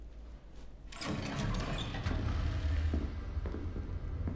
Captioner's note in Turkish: Kapı sesi